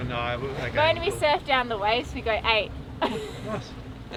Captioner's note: laughs